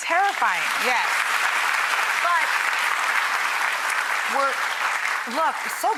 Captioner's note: audience applause